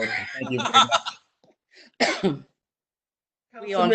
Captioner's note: laughs